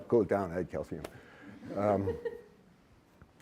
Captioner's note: laughter